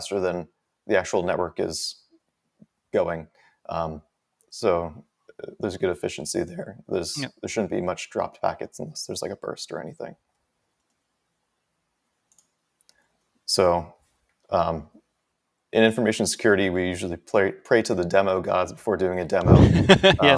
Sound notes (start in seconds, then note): 12.2 mouse clicking